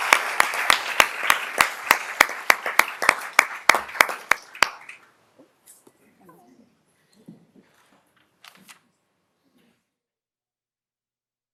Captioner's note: applause